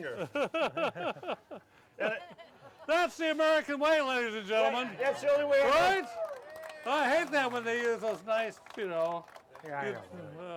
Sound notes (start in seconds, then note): 0.1 laughing; 0.3 audience laughing; 5.2 audience cheering; 5.6 audience applauding